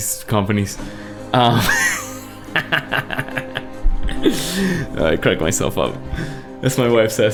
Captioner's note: laughs